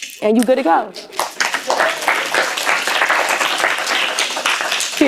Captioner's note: applause